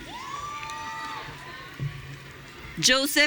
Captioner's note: audience cheering